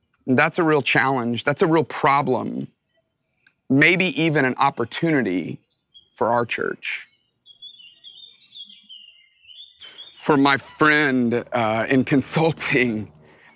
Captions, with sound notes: And that's a real challenge, that's a real problem. Maybe even an opportunity for our church. (birds chirping) For my friend in consulting,